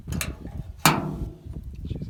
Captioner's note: clank